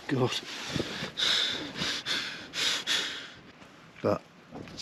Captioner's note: heavy panicky breathing